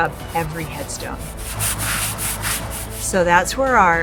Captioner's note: brush scraping